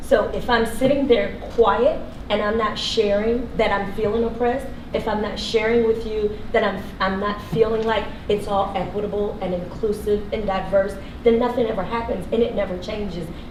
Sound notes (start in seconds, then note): none